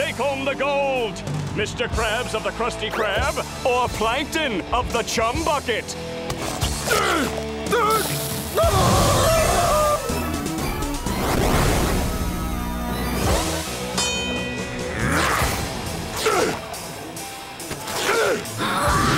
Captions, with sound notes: Who will take home the gold, Mr. Krabs of the Krusty Krab, or Plankton of the Chum Bucket? [screaming] [dinging] [grunting]